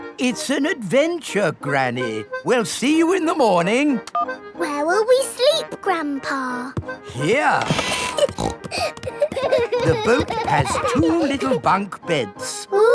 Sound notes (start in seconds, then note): 7.6 snorting; 7.8 kids giggling